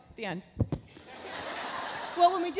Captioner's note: laughs; audience laughs